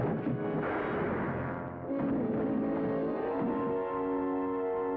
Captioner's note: gun firing; tense music